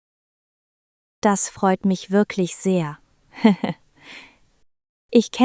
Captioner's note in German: lacht